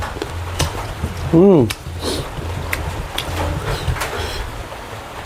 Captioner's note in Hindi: नाक से की जाने वाली आवाज़